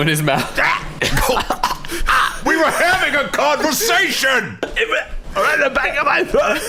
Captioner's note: rasping